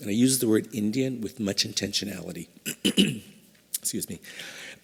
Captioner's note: coughs